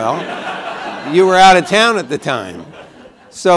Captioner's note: laughter